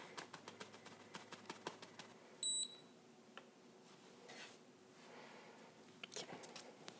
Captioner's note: tapping, beep